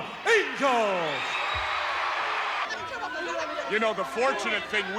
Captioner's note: audience cheering